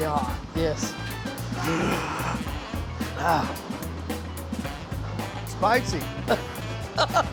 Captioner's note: gasps; chef chuckles